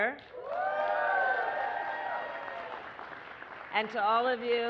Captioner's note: applause